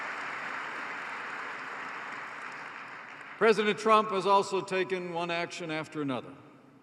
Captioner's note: applause